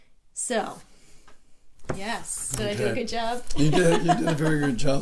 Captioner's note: laughs